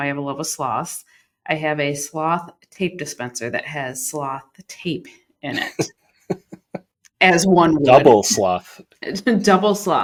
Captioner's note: laughter